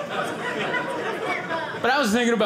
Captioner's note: audience laughing